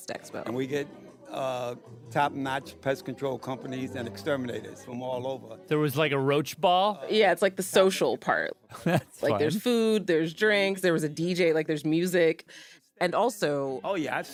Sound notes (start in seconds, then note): 8.7 laughs